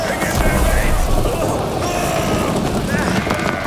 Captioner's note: sailors grunt